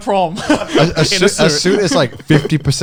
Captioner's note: laughing